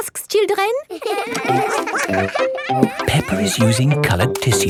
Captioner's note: all giggling